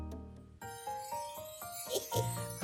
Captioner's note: chimes ring